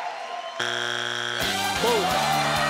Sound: cheering; buzzing; upbeat music

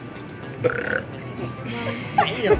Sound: burps

